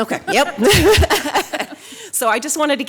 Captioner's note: laughing